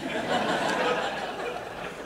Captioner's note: laughter